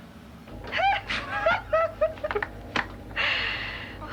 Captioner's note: giggling